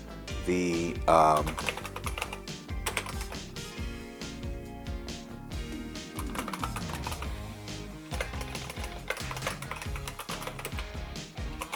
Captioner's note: IBM Model M clicky keyboard typing